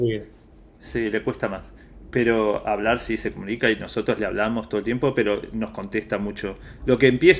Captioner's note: in Spanish